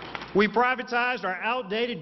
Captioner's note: applause